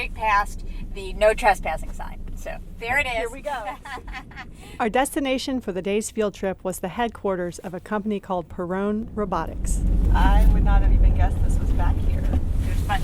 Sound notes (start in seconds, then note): 3.6 laughs